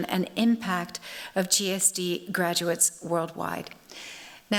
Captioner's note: none